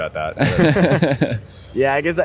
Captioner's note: laughter